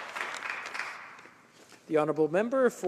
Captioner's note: applause